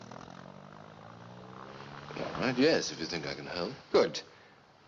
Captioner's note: vehicle Starting; vehicle Departing